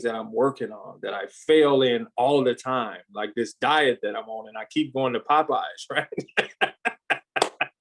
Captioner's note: laughs